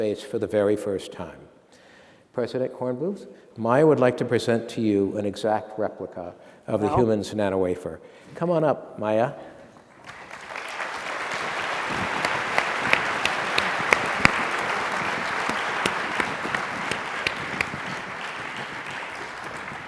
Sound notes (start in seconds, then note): 10.5 applause